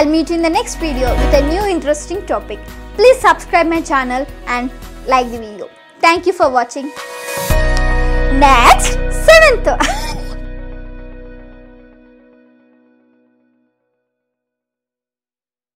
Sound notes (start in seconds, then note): 9.7 😂 laughing and shying